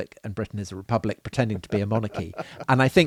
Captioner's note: chuckling